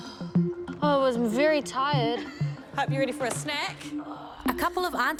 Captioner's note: laughs; laughs